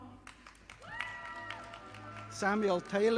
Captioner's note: audience applauding